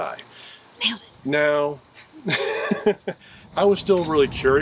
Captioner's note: laughs